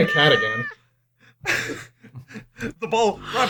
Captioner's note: laughter